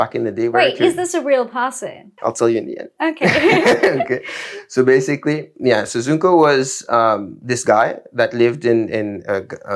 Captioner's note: laughs